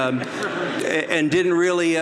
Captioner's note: audience laughs